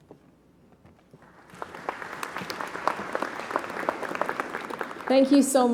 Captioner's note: applause